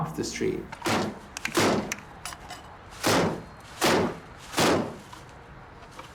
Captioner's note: banging sound